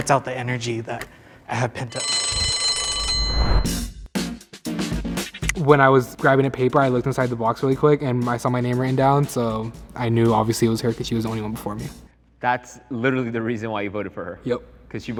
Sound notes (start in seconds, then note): 1.9 bell dings; 3.1 electronic music